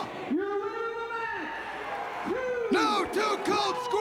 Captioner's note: crowd cheering